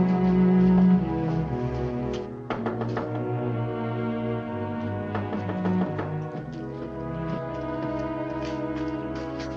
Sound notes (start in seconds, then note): 2.4 knocking on door